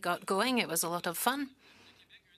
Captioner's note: speaking French